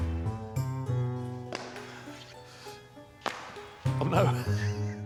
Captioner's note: playful music; circle slapping on floor; circle slapping on floor